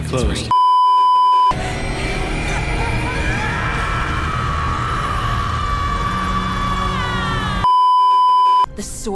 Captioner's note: parallel agonized screaming; plays the weird synth sound